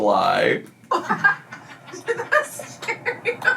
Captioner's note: laugh